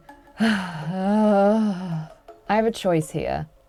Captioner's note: sighs